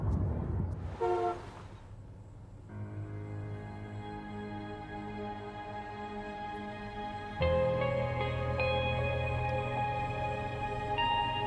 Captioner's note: hum of space station interior